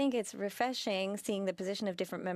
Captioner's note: speaking French